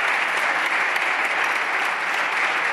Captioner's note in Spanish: Aplausos